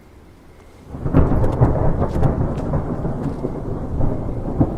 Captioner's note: thunder cracking